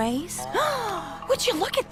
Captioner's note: gasp